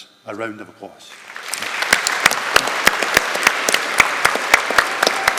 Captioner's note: audience applauding and cheering